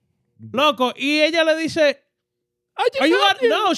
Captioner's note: speaking In Foreign Language